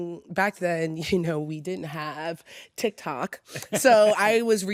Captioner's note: laughs